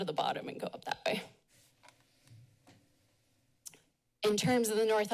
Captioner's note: pause